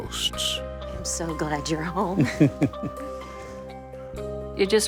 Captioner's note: Norman chuckles